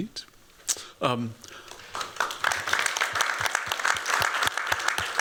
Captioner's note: applause